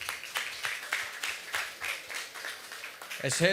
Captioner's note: applause